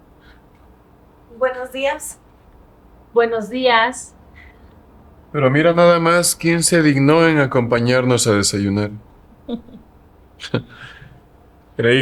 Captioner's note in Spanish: risas